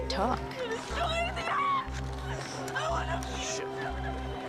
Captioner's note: protestor screaming